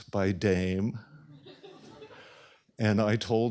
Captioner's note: laughter